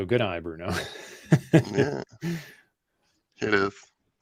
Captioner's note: laughs